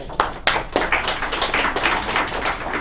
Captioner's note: applause